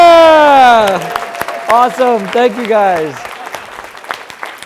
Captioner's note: applause